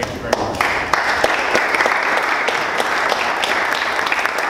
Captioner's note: audience applause